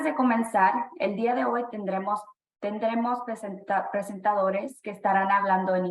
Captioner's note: speaking spanish